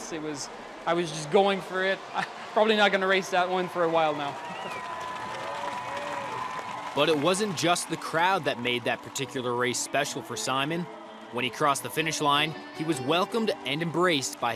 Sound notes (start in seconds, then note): 4.7 cheering